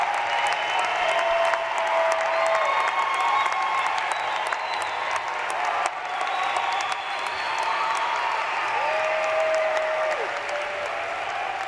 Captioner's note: cheering and applause